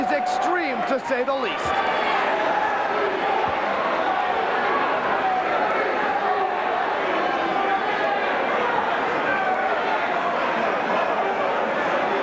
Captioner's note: crowd cheering